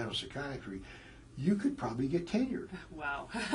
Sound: laugh

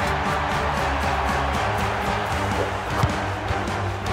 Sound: crowd cheering

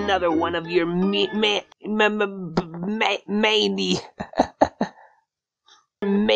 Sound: fuckin laughs at my own idiocity

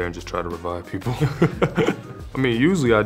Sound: laughing

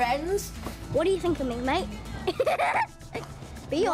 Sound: laughs

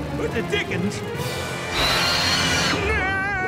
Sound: screeches

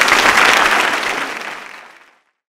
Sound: applause

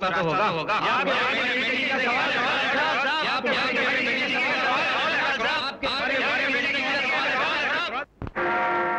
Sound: indistinct chatter

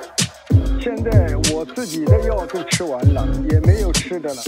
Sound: elder on the phone

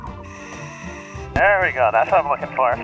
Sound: upbeat playful music; deep breathing

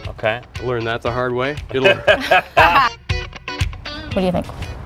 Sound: laughter

